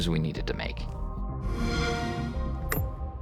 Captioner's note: xbox sound